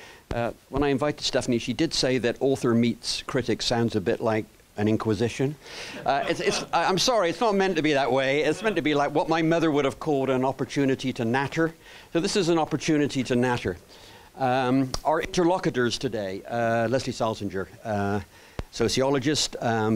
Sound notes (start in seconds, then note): 6.0 laughter